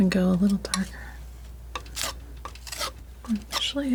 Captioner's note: scratching